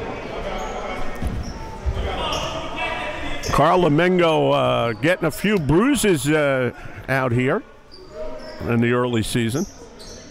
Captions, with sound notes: (players bustling) (yelling) Carl Emengo gettin' a few bruises out here in the early season.